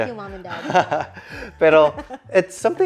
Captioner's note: laughs